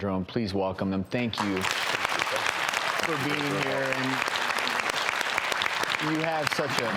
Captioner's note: applause